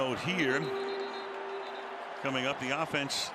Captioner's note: whistle